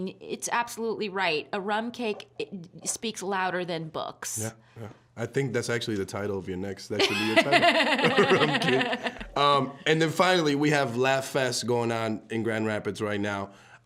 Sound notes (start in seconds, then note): 7.0 both laughing